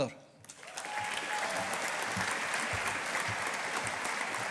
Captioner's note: audience applauding